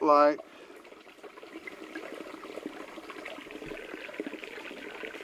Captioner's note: water babbling